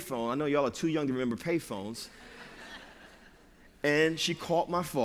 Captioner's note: laughter